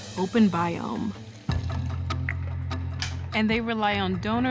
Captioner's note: water running, shuts off